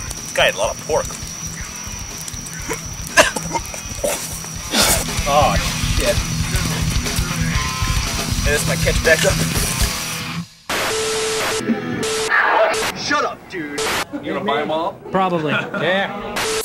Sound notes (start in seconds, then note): 1.9 heavy metal music; 4.6 Dwight heaving; 10.8 static buzzing; 15.4 Justin laughing